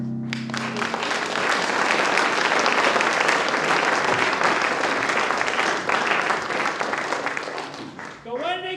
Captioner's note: applause